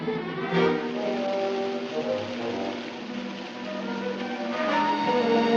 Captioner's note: running water